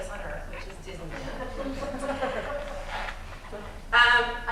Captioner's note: laughter